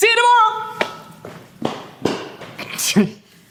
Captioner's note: loud footsteps